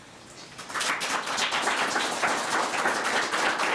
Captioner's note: all claps